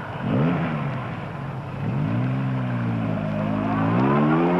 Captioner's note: engine revving